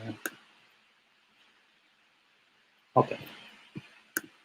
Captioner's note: click